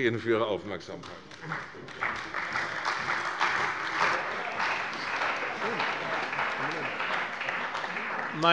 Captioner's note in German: Beifall bei der CDU und bei dem BÜNDNIS 90/DIE GRÜNEN